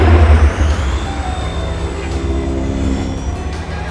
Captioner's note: engine roaring